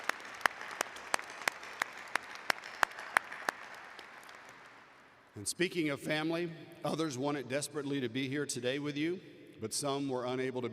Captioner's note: applause